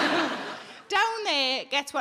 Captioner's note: audience laughs